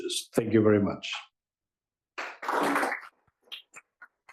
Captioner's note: applause